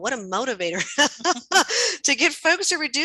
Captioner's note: all laughing